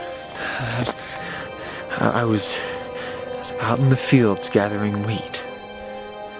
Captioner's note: stammers